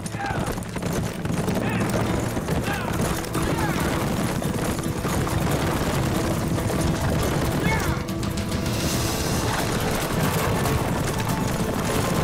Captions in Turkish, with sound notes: Yah! Yah! Yah, yah! (At nalı sesleri) Yah!